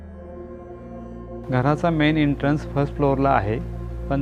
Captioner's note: in Marathi